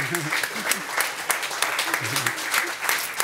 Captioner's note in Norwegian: Applaus